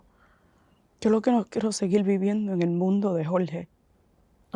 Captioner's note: Spanish